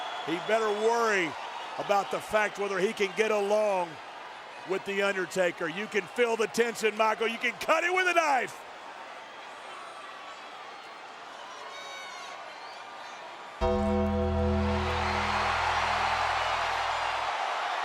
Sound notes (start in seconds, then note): 13.6 bells tolling; 14.7 audience cheering